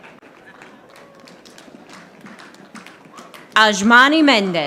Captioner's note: audience applauding